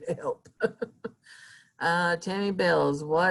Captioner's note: chuckling